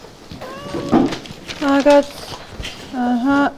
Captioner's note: in irish